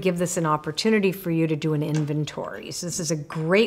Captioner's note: none